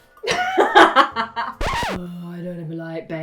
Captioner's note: laughter